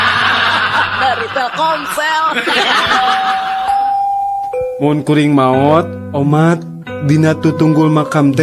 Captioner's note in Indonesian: tertawa